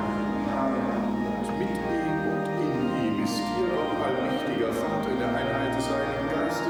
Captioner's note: priest speaking foreign language